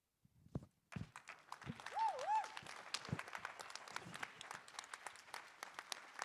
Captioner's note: audience applauding and cheering